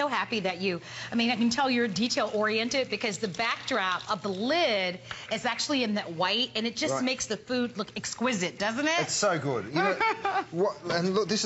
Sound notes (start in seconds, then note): 9.8 laughter